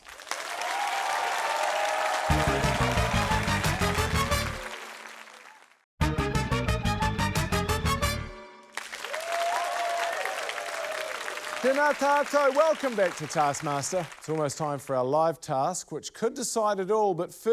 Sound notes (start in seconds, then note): 0.0 applause, cheering; 2.2 upbeat fanfare; 8.6 applause, cheering